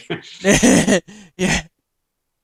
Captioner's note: both laughing